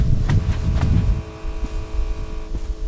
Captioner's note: footsteps